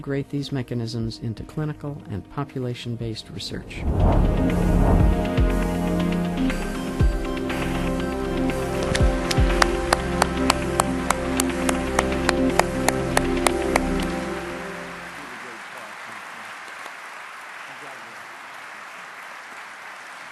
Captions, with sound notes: these mechanisms into clinical and population based research. (light electronic music) (applause)